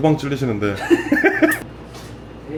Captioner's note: laughs / Laughs